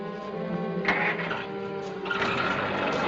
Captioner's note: engine starting